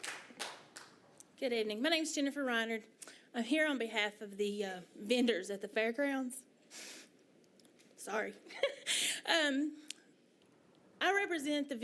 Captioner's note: applause